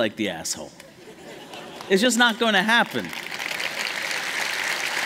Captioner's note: applause